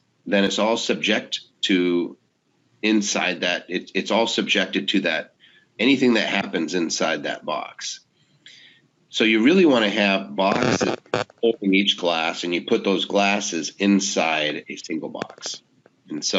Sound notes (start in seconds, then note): 10.4 microphone feedback